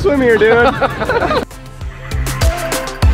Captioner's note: laughing; upbeat music